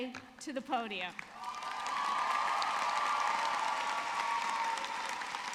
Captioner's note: audience cheering